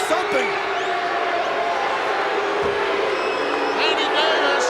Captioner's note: crowd jeering